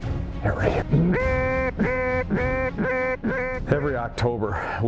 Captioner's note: duck calls